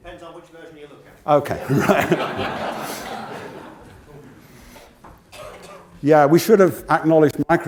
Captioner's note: laugh